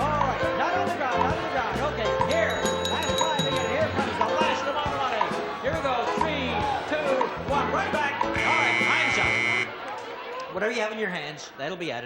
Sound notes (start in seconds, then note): 8.4 buzzer